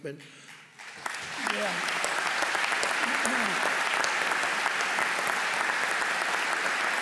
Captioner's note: applause